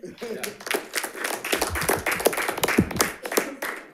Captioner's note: people applauding